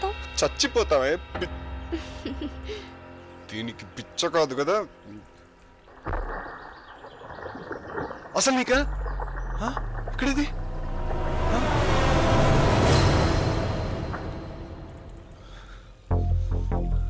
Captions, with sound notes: We'll die, you.. (Laughs) 'She's crazy.' (Splashing) Do you have any.. Where is she?